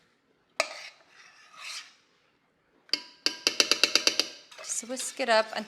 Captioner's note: spoon clinking